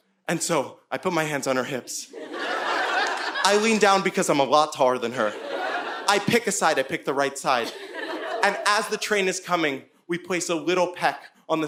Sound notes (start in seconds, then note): 2.1 audience laughing